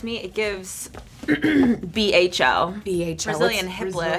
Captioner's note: clears throat